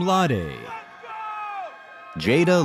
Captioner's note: audience cheers